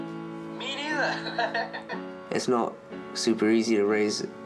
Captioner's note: laughs